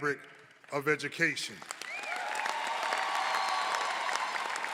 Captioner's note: cheers